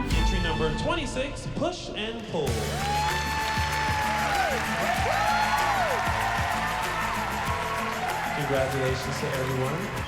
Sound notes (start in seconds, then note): 2.4 cheering and applause